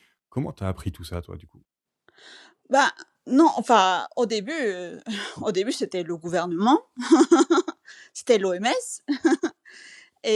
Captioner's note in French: rires